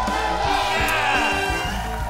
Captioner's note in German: Jubel, Applaus